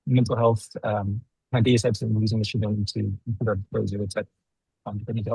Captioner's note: speaking faintly